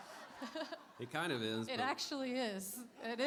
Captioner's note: laughter